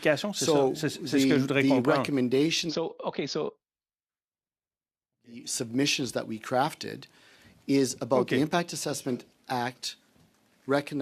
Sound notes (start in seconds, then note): 7.3 speaking French